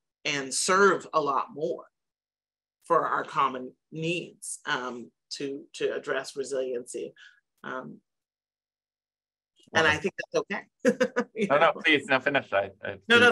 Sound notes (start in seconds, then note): 10.9 chuckles